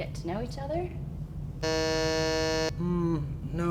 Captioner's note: buzz sound